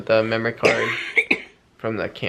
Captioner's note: coughing